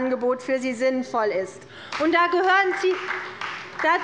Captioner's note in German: Beifall bei Abgeordneten der CDU